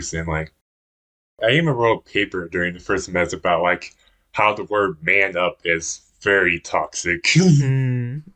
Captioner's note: laughs